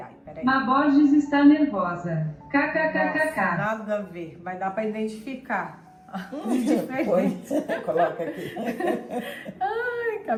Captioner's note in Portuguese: risadas